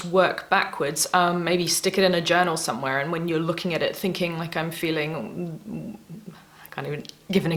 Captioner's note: thinking noises